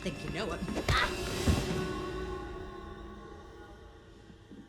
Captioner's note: Mia cries out